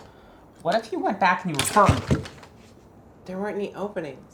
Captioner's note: parts clatter